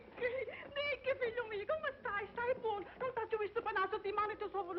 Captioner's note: speaking spanish